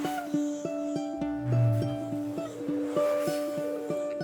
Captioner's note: forest soundscape